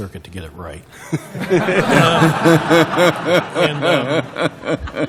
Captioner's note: laughter